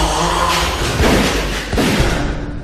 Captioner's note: gun shot